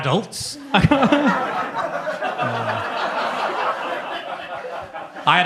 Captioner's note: laughs; audience laughs